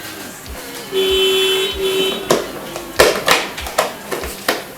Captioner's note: car hooter